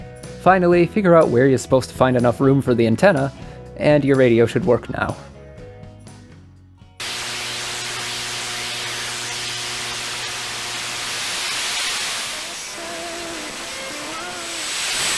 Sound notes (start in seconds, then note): 7.0 radio static; 12.4 pop music